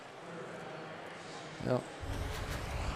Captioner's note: pa announcement